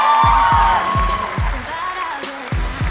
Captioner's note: applause